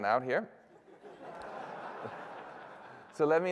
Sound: laughter

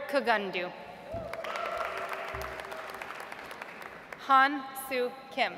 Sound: audience applauds

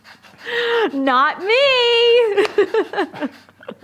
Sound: laugh

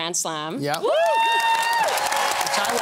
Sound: cheering and applause

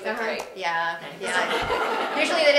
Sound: laugh

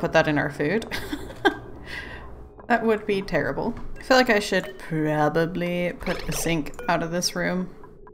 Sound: laughs

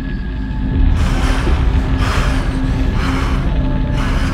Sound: dramatic music; heavy breathing

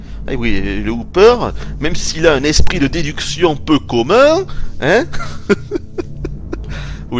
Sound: laughters

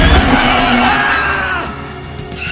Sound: screams

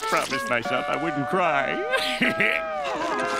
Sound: chuckles

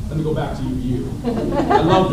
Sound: laughter

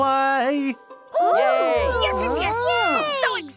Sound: class clamoring

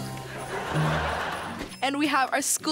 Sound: laughing

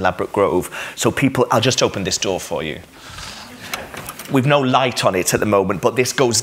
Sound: noise of door opening

